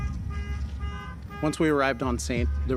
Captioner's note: car horn honking